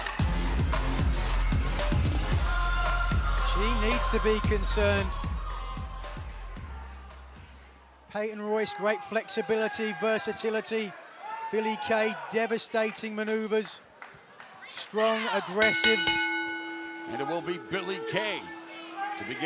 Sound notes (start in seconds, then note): 15.6 bell ringing